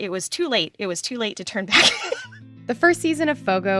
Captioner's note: laughs